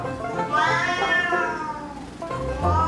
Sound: meow

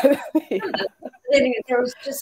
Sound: laughing

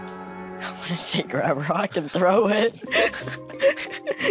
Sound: laughs

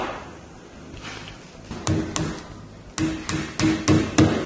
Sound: nails hammering in

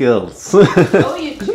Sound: laughs

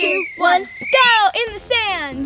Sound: whistle blows

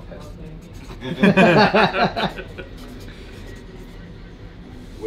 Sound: group laughing

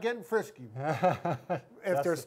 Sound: laughing

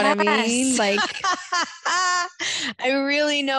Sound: laughs

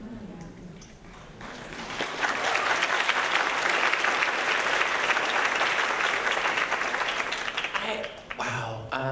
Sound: applause

